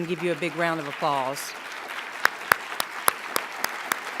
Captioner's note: applause